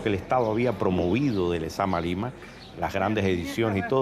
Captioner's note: speaking Spanish